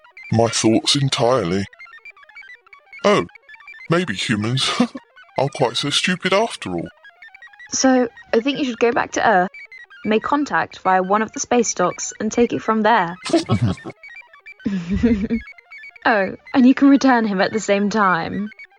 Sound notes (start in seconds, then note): 3.9 laughs; 12.9 aliens laugh